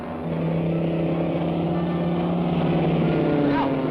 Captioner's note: plane roaring